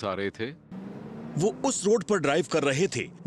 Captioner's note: narrating